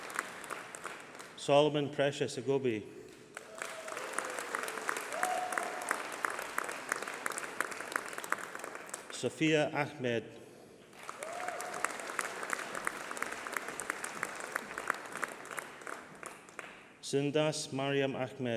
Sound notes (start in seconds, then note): 3.0 applause